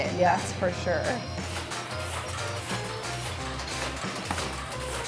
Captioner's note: machine whirs